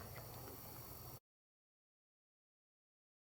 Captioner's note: silence